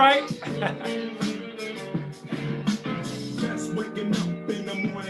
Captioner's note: laughs